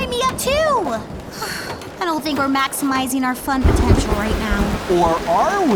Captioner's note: sighs